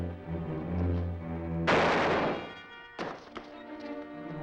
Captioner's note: gun fires